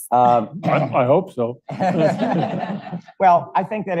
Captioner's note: audience laughs